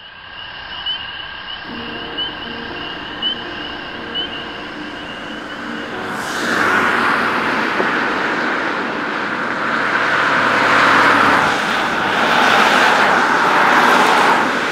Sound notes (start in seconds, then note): 1.6 crickets chirping, frogs croaking; 6.9 highway traffic